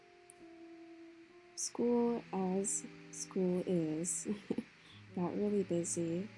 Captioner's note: chuckle